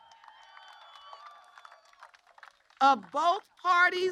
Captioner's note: applause